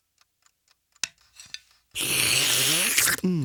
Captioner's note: slurping